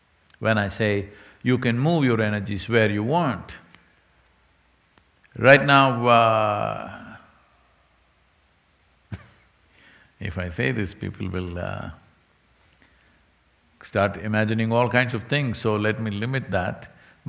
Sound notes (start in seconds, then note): 8.2 laughs